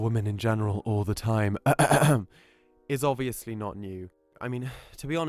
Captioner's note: coughs